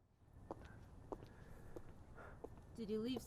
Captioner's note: footsteps approaches